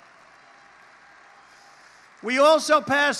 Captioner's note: applause